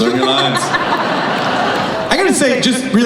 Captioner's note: laughing